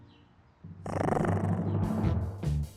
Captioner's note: growls